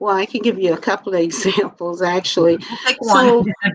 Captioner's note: laughter